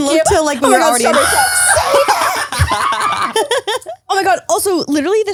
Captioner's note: screams